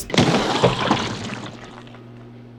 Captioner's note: grunts and flying guts